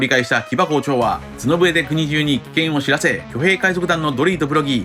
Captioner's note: horn